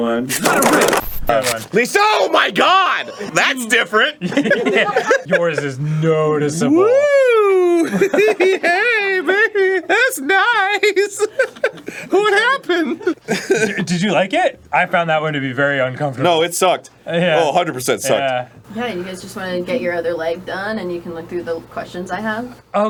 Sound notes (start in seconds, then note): 8.0 high pitched voice; 11.0 laughing